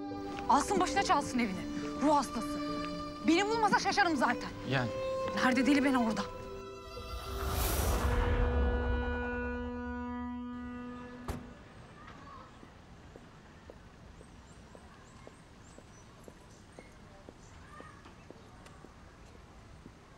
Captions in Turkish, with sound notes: Alsın başına çalsın evini, ruh hastası! -Beni bulmasa şaşarım zaten. -Yani. Her deli beni bulur da! (Gemi düdüğü sesi) (Bagaj kapağı kapanma sesi) (Sokak ortam sesi) (Kuş cıvıltısı sesleri)